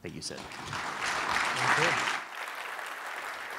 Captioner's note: applause